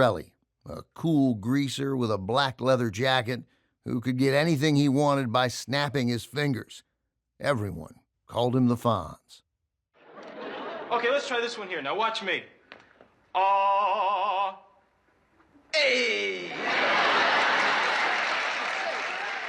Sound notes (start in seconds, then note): 13.0 student vocalizes; 16.2 laughter